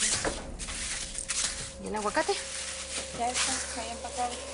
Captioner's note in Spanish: Ruidos al empacar